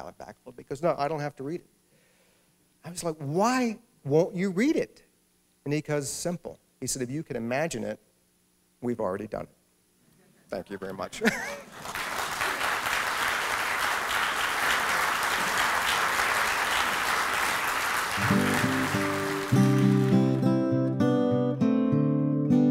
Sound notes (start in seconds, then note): 11.5 applause